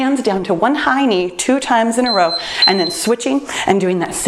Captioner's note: timer beeps